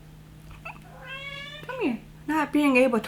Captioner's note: cat meowing